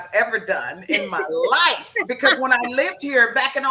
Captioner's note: laughs